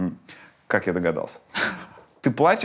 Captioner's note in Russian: Ира усмехается